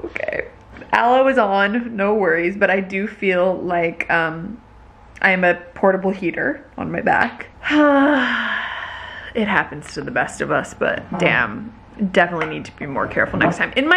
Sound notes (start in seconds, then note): 8.2 exhales heavily